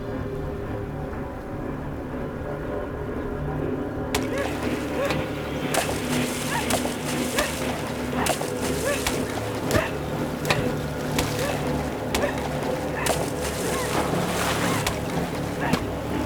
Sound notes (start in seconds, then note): 0.1 suspenseful music; 4.7 splashing water